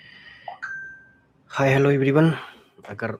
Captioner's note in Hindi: none